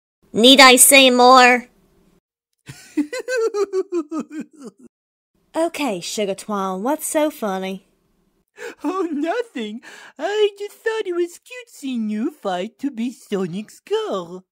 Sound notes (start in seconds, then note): 2.6 giggling